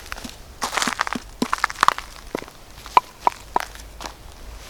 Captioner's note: wood knocking